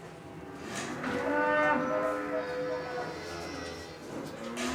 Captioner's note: cows lowing